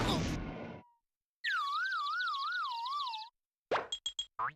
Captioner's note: birds chirping